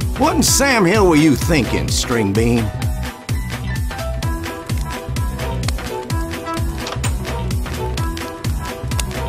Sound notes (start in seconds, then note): 5.6 door opens